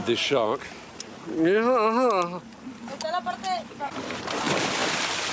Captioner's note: Stephen exclaims